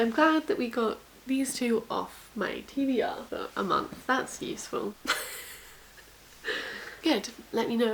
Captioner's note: laughs at self